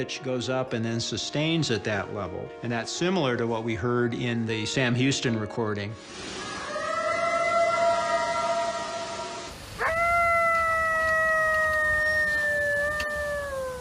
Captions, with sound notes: goes up and then sustains at that level. And that's similar to what we heard in the Sam Houston recording. [eerie howl] [coyote howls]